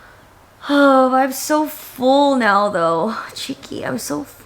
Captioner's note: sighs